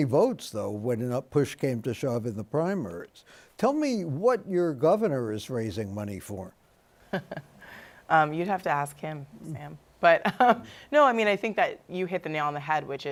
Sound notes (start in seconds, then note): 7.1 laughter